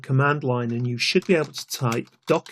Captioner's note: keyboard clicking